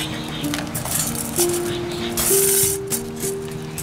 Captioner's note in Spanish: Clang